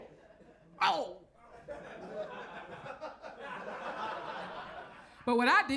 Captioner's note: audience laughs